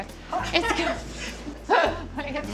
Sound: laughing

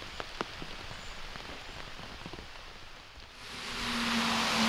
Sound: rain pattering

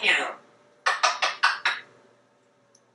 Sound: smooch, smooch, smooch, smooch, smooch

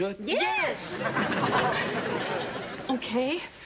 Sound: audience laughing

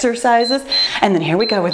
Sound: timer beeps

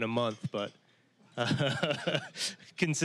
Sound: laughing

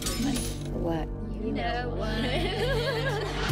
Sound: all giggle

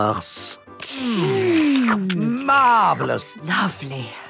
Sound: slurping

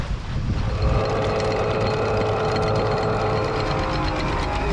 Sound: whirring

